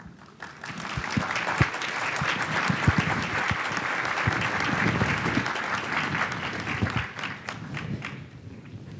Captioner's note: applause